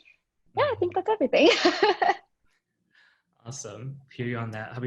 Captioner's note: laughing